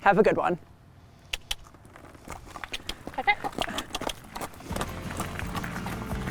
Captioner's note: trainer clicking; upbeat music; horse trotting